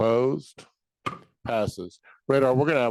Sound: gavel thudding

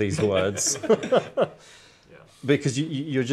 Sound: all laughing

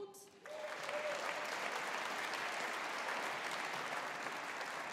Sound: audience applauding

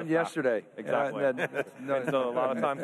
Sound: laughs

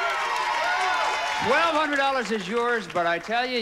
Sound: audience cheering

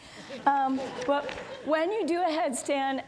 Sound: audience laughs

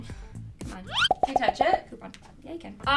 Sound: popping sound

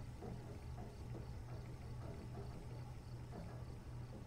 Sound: faint knocking

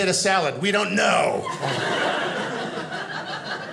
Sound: audience laughing

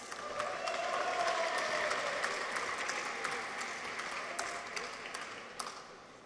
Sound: audience applauds; people cheer

